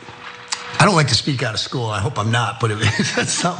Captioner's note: laugh